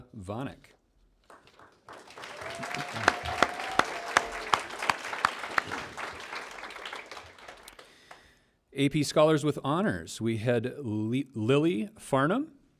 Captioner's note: cheers and applause